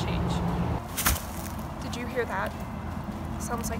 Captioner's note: leaves rustling